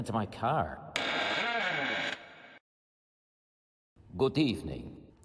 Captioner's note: doors creaking